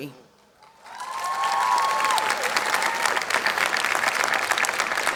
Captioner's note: audience clapping